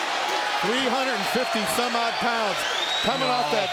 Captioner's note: crowd chatter